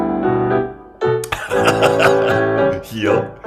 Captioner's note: laughs